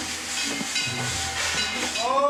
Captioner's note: clanging bell